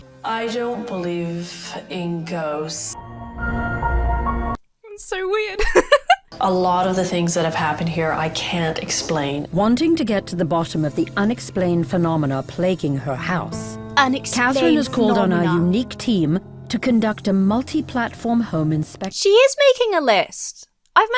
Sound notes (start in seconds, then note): 3.0 tense music; 5.5 laughs